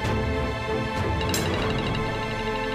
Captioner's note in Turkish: Telefon çalıyor